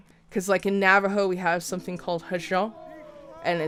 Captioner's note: speaks foreign